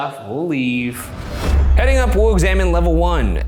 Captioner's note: air whooshing